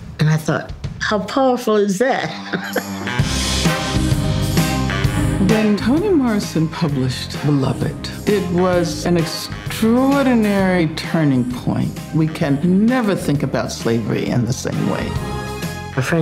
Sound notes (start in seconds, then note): 2.2 laughing; 3.4 upbeat music